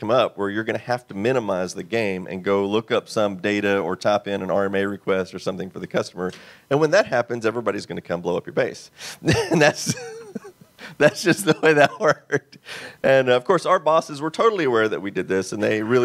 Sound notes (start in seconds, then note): 11.0 laughs